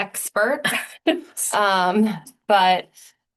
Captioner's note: laughter